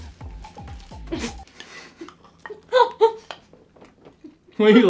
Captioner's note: laughing